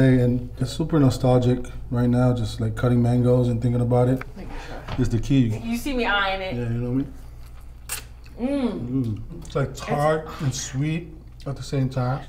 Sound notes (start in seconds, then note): 7.1 slurping